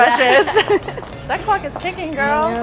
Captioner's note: laughs